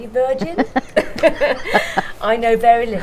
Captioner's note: laughing